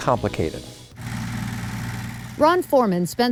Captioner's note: tractor revving